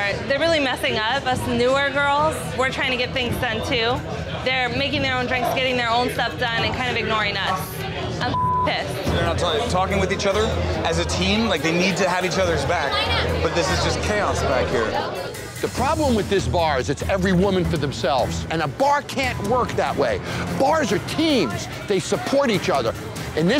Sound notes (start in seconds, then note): 8.2 beep